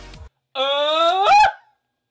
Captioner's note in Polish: dziki krzyk